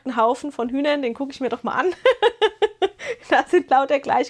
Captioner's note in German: gelächter